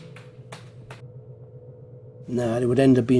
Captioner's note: computer keys clicking